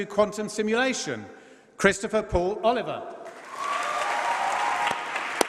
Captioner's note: applause